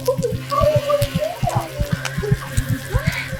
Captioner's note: C: heart racing loudly